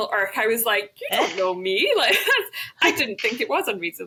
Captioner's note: laughs